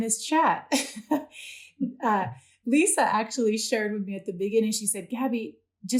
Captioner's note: laughter